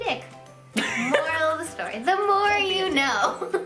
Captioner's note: laughs